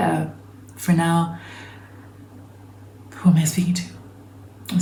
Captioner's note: deep inhale